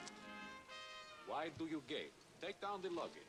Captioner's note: mockingly